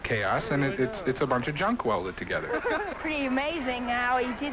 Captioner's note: laughter